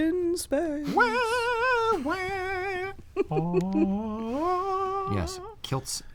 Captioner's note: hums